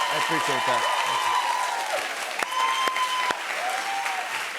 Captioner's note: cheers and applause